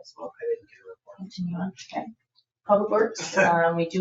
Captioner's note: people chattering